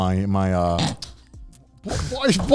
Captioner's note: snickering quietly